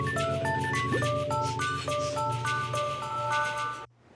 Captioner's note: sniffing